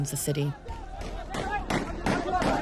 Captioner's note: gunshots